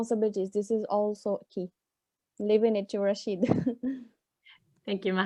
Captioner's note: chuckles